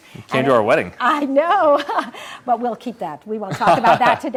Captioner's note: laughs